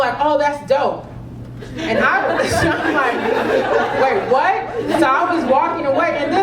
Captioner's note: laugh